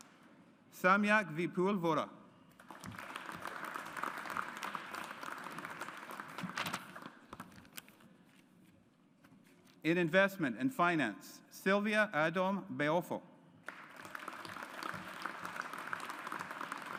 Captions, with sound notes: Samyak Vipul Vora. (AUDIENCE APPLAUDS) In Investment and Finance, Sylvia Adom-Boafo. (AUDIENCE APPLAUDS)